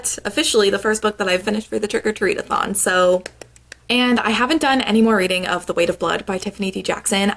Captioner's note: clap clap clap